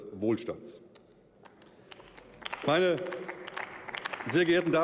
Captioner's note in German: Beifall